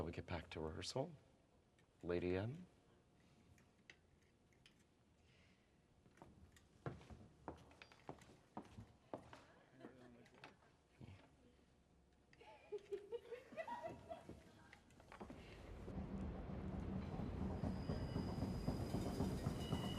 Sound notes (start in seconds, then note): 12.4 women laughing; 17.5 drumbeats